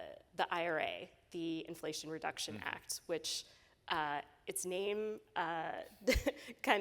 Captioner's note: chuckling